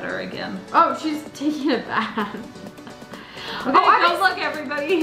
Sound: laughs

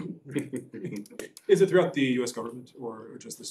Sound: laughter

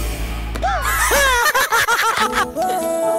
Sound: laughs

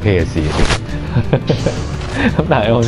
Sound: haha!

